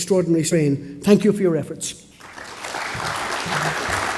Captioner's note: applause